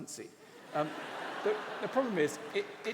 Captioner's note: laughter